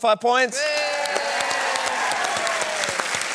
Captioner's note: cheering and applause